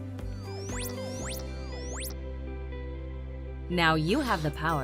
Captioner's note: beeping sound